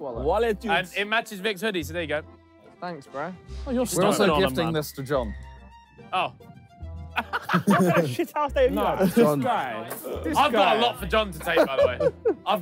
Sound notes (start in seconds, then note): 7.1 all laughing